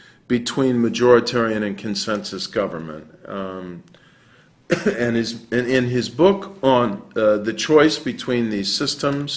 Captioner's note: cough